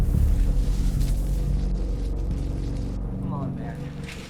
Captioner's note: zapping